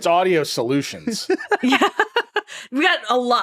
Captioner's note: all laughing